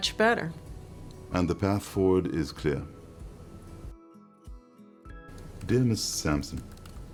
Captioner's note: typing